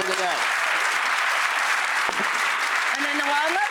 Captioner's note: audience clapping